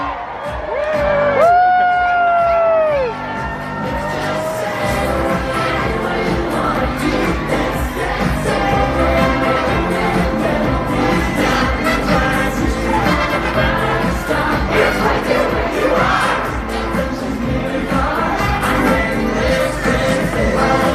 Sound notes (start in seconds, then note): 0.0 guests cheering